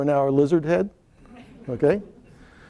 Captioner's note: laughter